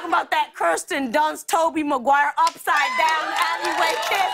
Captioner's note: cheers and applause